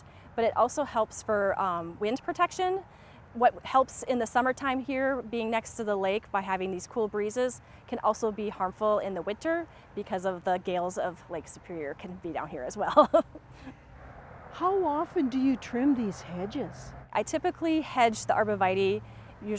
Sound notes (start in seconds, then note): 12.8 chuckles